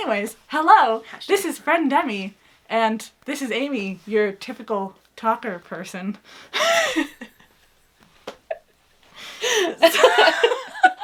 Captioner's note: laughs